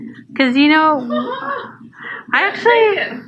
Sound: laughs

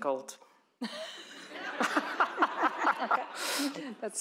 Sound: laughter

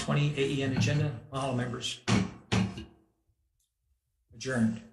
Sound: gavel bangs

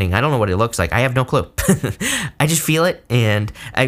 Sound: laughs

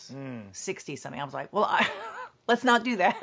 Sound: laughs

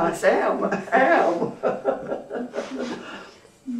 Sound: laughs; laughter

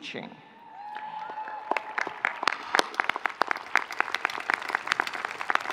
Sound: audience clapping

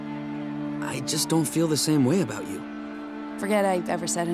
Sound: none

